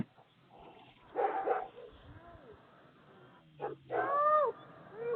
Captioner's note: dog barking